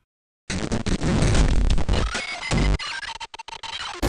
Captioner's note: sounds of robot dying